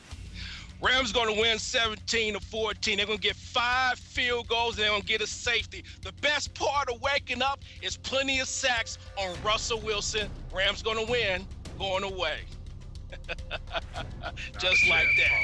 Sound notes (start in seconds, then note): 13.1 laughter